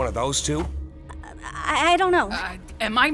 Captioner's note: stammers